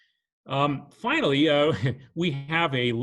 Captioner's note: chuckles